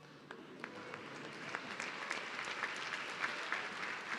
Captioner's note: audience clapping